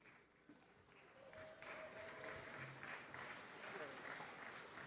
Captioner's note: cheering